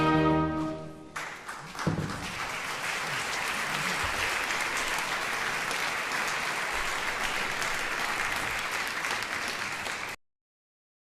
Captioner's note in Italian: applauso